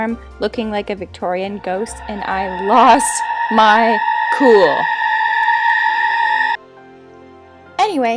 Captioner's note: ghostly shriek